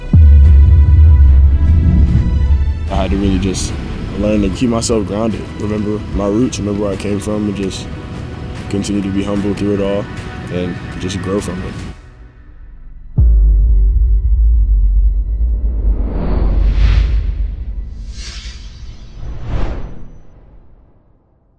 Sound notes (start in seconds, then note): 0.2 soft emotional music; 11.8 music halts; 15.6 air swooshing